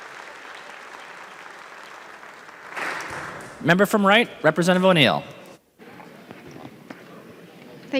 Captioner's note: applause